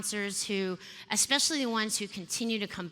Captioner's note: none